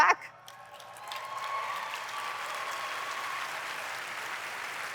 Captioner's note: applause